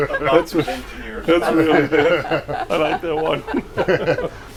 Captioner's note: laughs